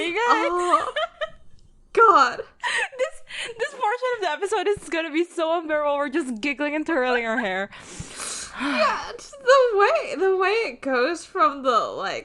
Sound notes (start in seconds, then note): 0.0 laughs; 8.9 giggles